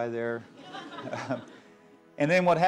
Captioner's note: laughter